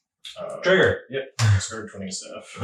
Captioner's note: laughing